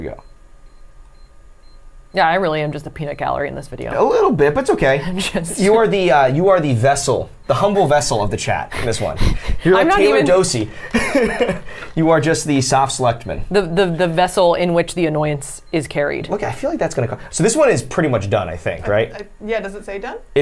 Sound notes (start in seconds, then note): 0.6 machine beeping; 10.7 laughs